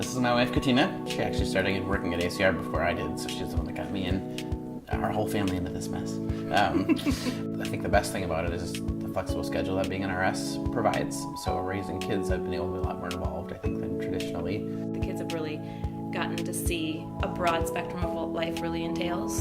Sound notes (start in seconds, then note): 6.6 laughing